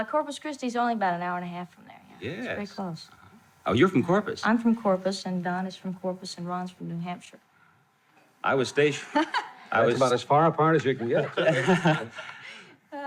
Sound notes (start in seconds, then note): 9.1 laughing